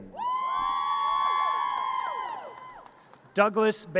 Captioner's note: audience cheers